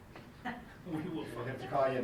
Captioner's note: laughs